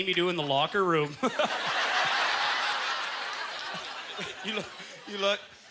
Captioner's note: audience laughter